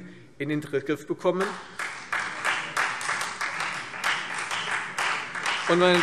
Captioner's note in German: Beifall Freie Demokraten und CDU